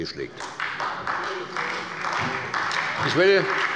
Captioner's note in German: Beifall bei der SPD